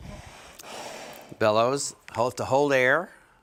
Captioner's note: air blows lightly